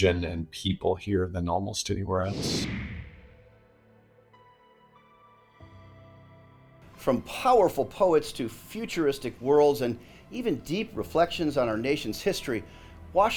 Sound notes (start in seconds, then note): 2.2 screen whooshing; 3.0 airy music